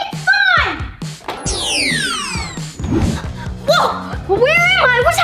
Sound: whooshing sound

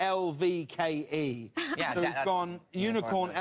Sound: laughs

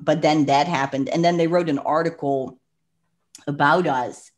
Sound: clicks tongue

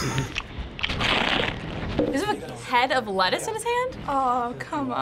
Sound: laughs; loud munching

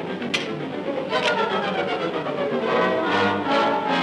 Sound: revolver clicking

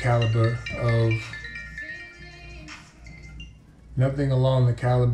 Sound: phone ringing

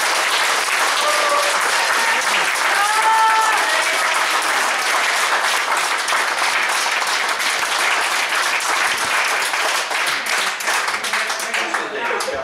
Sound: applause; cheering and applause; applause

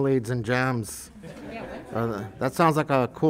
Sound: group laughs

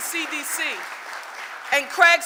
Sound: audience applauding

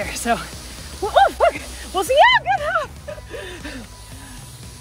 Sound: yelling

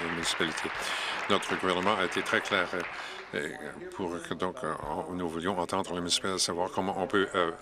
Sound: applause

